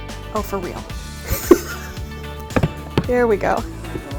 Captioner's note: laughs